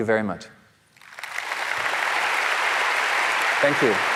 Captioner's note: audience applauding